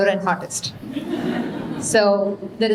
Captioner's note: audience laughing